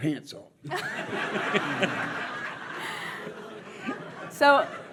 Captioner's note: audience laughs